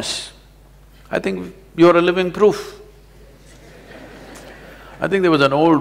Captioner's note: laughter